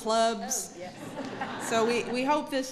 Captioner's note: laughter